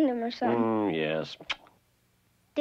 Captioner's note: kisses